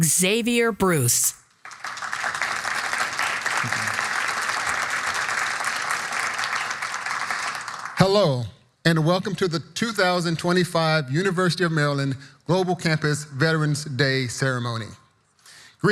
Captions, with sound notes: Xavier Bruce. (audience applauding) - Thank you. Hello and welcome to the 2025 University of Maryland Global Campus Veterans Day Ceremony.